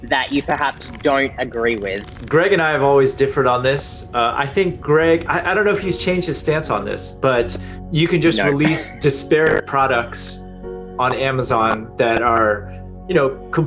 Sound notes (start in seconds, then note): 8.3 chuckles